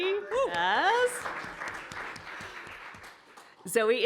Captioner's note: applause